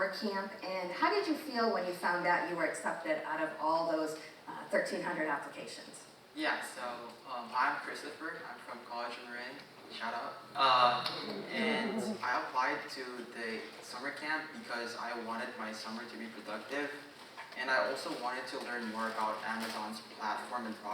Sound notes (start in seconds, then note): 10.3 audience member clapping; 11.1 audience chuckling